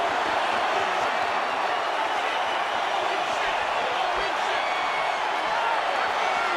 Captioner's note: crowd cheers